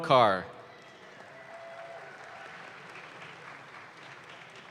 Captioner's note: audience claps